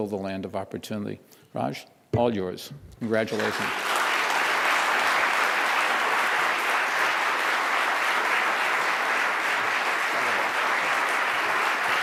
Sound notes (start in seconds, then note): 4.9 applause